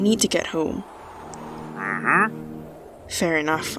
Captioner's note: villager noise